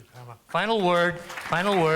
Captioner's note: applause